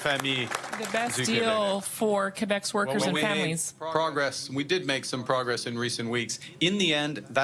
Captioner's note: applause